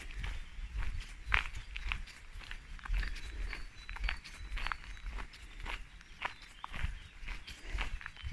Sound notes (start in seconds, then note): 2.9 walking